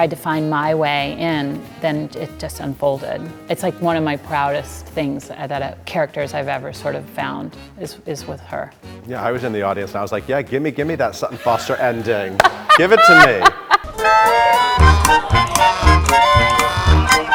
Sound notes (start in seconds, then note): 11.3 Sutton laughing